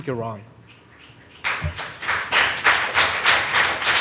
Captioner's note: applause